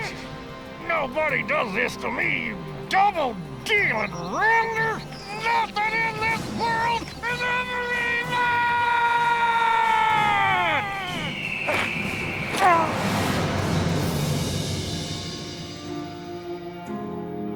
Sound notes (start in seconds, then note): 3.7 eagle whistles; 8.9 enchanting music playing